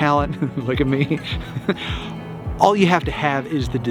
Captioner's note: laughs